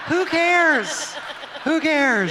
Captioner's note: audience laughts